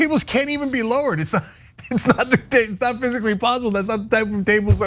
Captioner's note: laugh